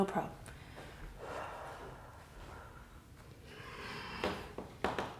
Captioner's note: inhale; deep breathing